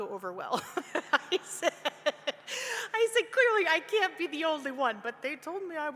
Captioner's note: laughs